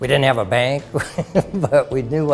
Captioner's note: laughing